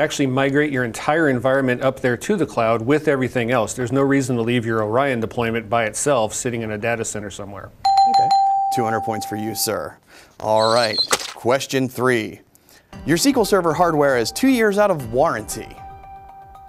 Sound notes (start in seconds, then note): 7.9 dings